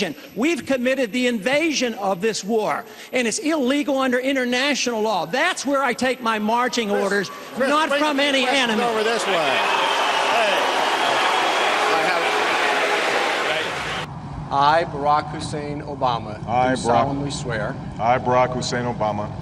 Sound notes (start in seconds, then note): 8.7 mix of cheers and boos